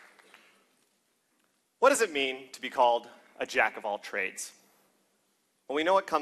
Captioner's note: applause